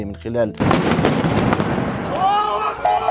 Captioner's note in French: coups de feu